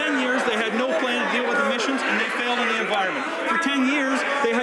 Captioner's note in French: voix de l'interprte